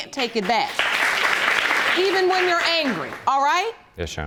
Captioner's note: audience applauding